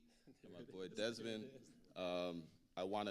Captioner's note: speaking quietly